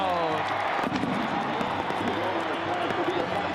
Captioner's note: music and fireworks; music and clapping